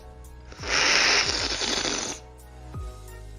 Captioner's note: slurping